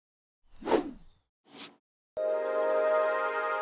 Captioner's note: whooshing; rising electronic note